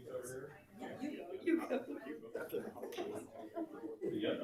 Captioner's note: people chatter